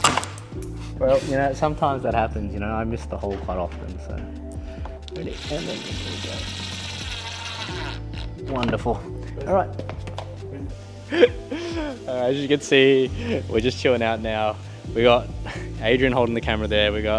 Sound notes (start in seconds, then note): 7.6 drill whirring; 11.0 laughing